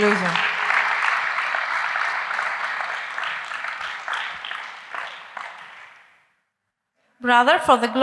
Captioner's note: applause